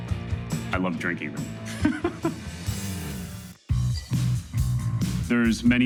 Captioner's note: chuckling